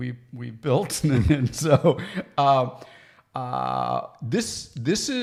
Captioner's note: chuckles